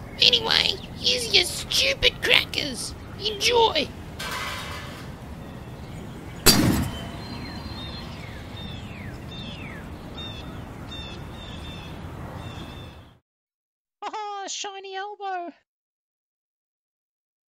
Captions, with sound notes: Anyway, here's your stupid crackers. Enjoy. [tray hits table] [explosion]